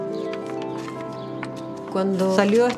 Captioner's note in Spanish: Hojas al ser pasadas